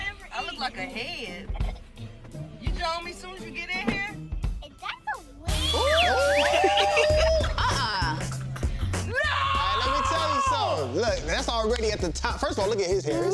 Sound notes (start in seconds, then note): 5.5 all oohing